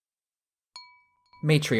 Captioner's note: chime sound